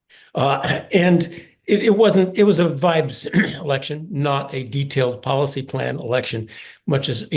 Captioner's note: cough